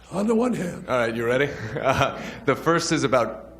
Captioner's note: chuckles